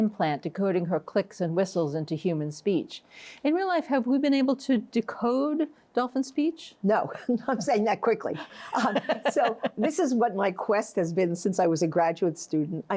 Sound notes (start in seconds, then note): 8.4 chuckles